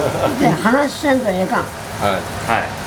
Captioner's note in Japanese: 会話